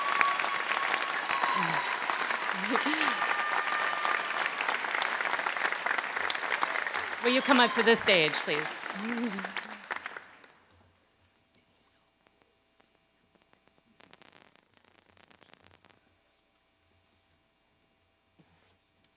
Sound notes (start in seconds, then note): 0.0 applause